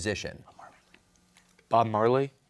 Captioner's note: whispering